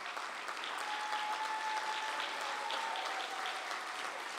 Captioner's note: applause